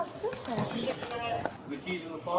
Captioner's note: radio chatter